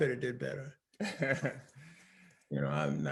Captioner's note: laughing